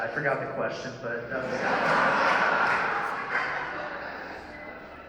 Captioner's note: laughter